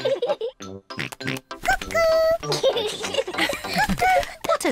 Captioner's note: both laugh; oinks; both laugh